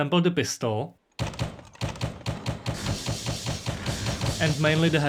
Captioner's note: pistol going pow pow